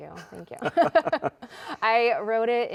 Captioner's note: both laughing